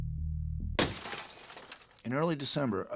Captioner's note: glass break